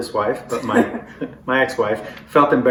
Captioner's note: laughter